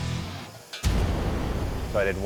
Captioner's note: sizzles